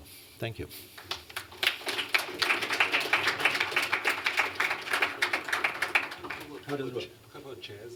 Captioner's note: applause